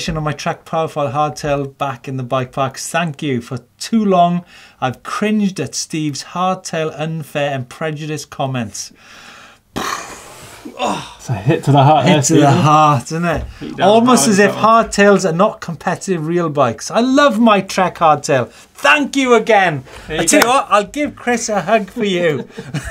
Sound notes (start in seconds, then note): 9.7 explosion noise with mouth